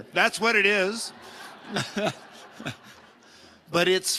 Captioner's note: audience laughing